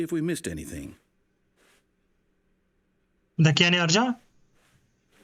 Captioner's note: footsteps